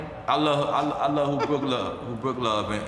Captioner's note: laughs